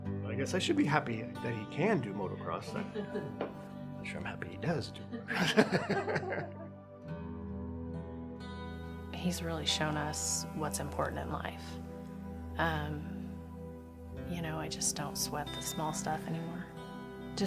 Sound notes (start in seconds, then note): 5.2 chuckles